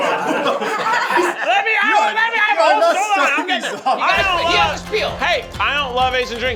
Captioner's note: laughter continues; Keith screaming indistinctly